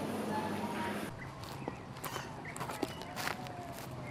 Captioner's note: birds chirping